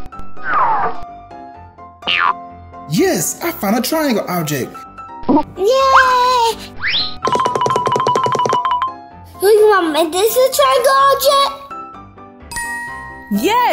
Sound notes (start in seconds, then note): 6.3 Gaga Baby cheers